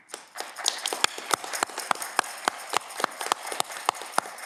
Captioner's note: audience clapping